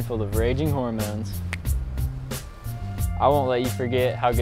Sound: snaps fingers

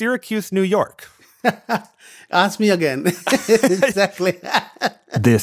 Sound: laughs

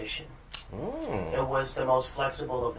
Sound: sounds of agreement

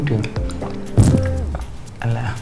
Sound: gulping

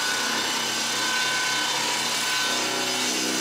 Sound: loud sawing noise

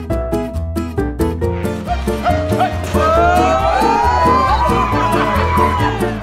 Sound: whooping

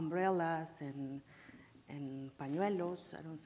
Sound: speaking in foreign language

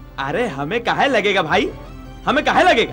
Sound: none

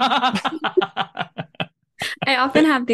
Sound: laughter

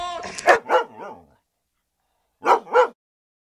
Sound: dog barking

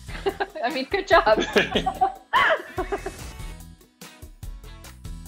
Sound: both laughing

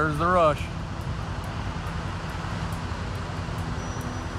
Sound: gushing water sound

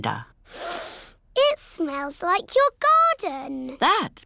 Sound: sniffs

